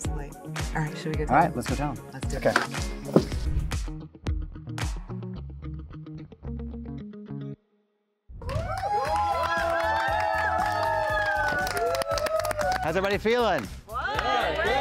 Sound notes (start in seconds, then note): 4.6 upbeat music; 8.4 group cheering and applauding